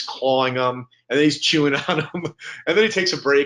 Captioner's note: chuckling